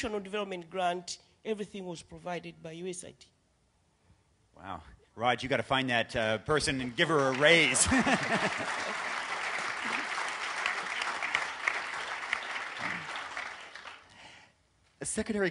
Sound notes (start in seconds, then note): 11.8 applause